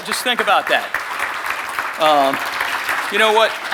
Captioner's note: audience clapping